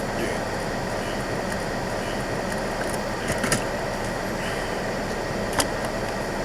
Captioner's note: sighs